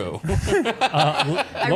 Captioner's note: laughing